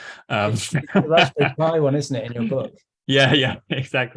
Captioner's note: laughs